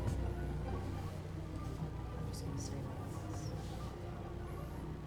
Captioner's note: whispering